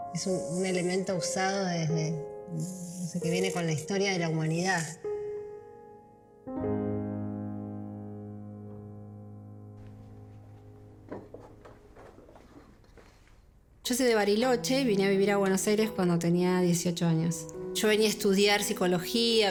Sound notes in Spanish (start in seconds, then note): 9.8 sonido de papel